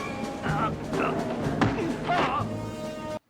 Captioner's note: thud